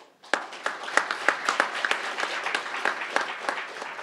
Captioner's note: crowd applauding